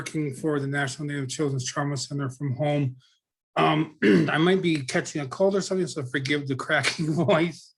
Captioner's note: clears throat